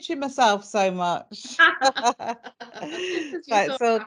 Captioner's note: both laughing